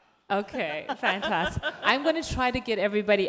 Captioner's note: speaks off microphone; laughs